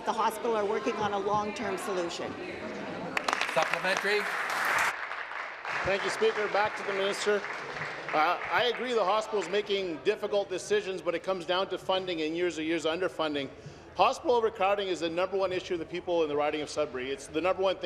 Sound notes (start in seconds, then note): 5.4 applause